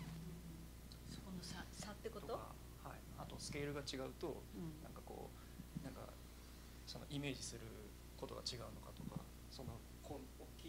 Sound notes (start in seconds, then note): 0.8 non-english speech